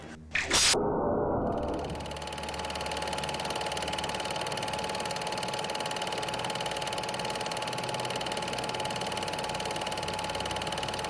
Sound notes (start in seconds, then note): 1.8 film projector whirring